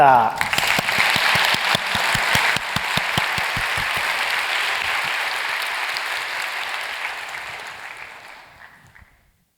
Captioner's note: applause